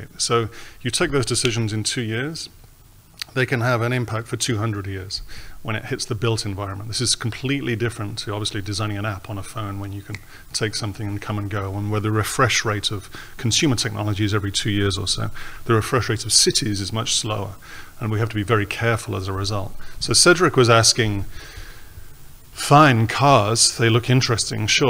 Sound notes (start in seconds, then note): 10.2 snaps fingers